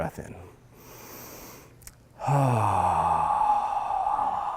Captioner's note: loud exhaling